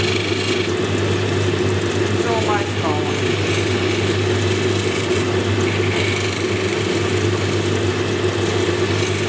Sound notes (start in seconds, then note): 5.1 machine whirring